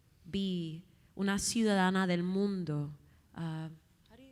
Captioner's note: speaking Spanish